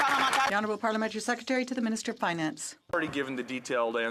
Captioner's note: some Applause